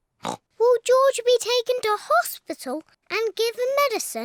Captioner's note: oinks